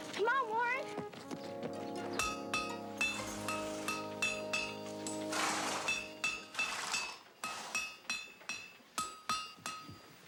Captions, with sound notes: Come on, Warren! (mallet clanging) (horses snorting)